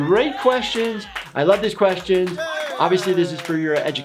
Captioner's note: crowd cheers